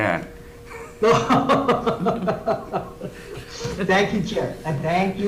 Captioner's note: laugh